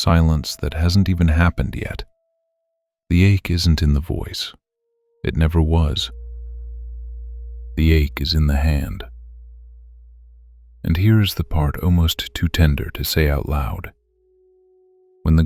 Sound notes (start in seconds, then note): 1.9 short pause; 6.0 tender and slow